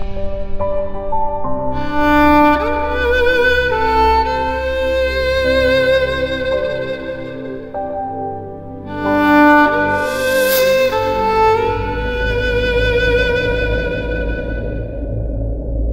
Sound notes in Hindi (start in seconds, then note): none